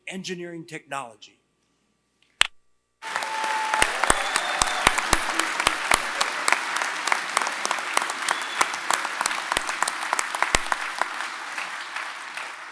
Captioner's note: applause